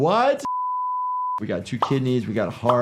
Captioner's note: beeping